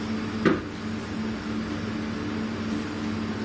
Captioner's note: thump